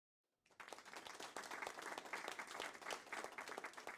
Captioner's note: audience clapping